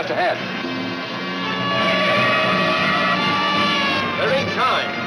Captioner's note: tires screech